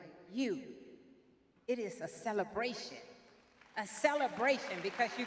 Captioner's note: audience claps